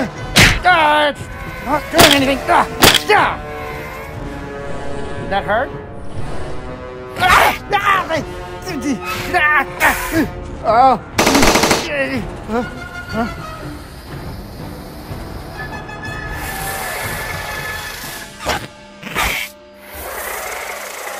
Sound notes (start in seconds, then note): 11.2 shots fired